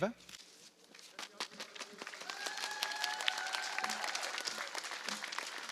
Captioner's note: applause